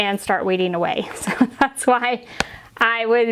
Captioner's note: chuckling